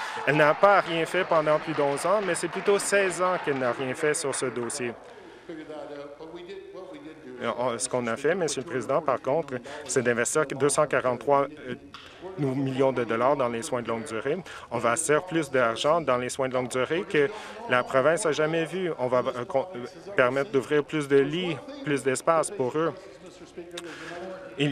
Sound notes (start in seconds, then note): 4.8 applause